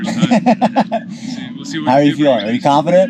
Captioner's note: laughter